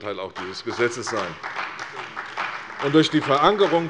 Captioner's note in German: Beifall bei Abgeordneten der CDU